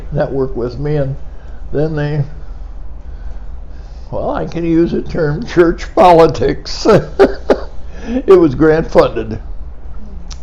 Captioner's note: laughing